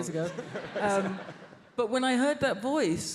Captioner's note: audience laughs